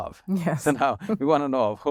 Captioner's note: laughs